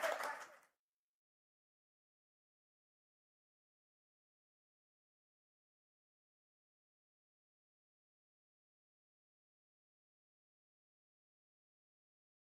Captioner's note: applause